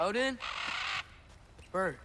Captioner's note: caw